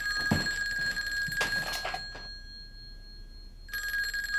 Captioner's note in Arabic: الهاتف لا يزال يرن